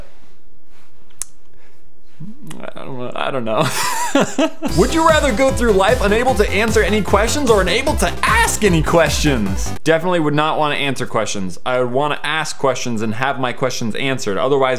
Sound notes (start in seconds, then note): 2.1 sighs; 2.3 grumbles; 4.0 laughs